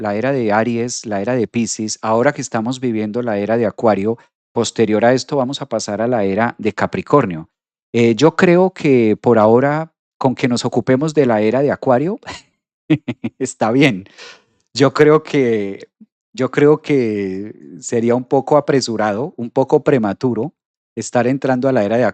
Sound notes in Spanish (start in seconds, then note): 12.9 risas